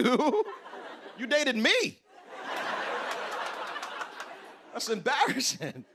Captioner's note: laughter